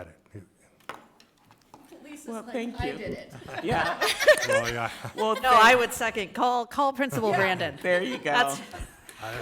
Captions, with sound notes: - Lisa's like, I did it. - Well thank you. (people laughing) - Yeah. - No, I would second. Call Principal Brandon. - There you go.